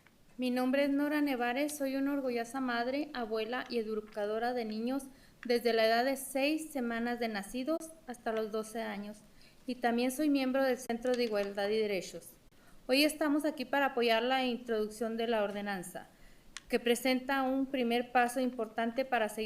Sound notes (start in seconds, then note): 5.2 speaking spanish